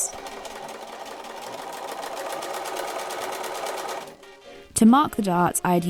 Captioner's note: machine whirring